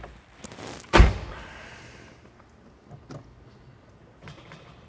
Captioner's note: door clicks